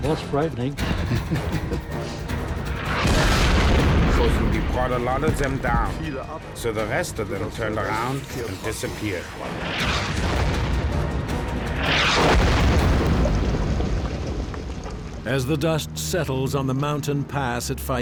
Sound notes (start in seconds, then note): 0.8 chuckles; 2.8 shell explodes; 10.0 shell explodes